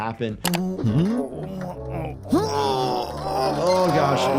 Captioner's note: Spendid grunting